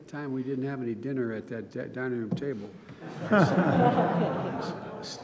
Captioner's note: laughter